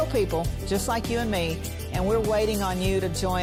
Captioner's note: none